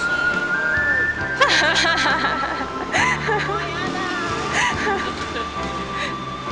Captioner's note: laughs